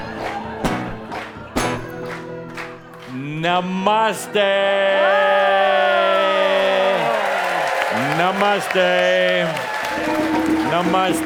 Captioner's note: much cheers and applause